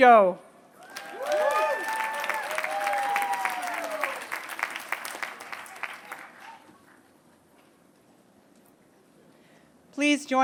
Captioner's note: applause